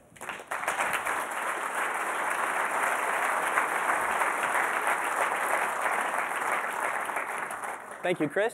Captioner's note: applause